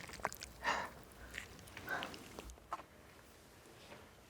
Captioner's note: exhaling